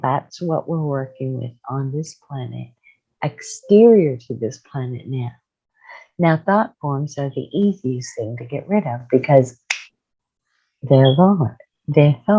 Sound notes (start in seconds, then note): 9.7 snapping her fingers